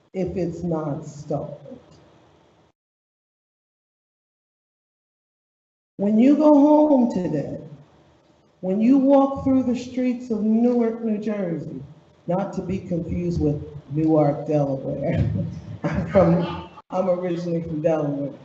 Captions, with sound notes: if it's not stalled. When you go home today, when you walk through the streets of Newark, New Jersey, not to be confused with Newark, Delaware, (laughs) I'm originally from Delaware,